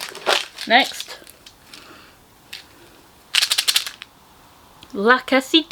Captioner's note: shaking noises